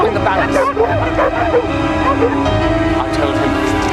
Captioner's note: dogs barking